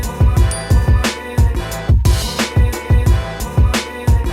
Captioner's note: computer keys clacking; bell dings